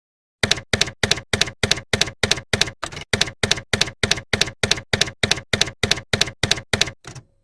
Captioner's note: typewriter keys clacking